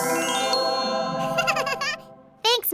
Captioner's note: giggles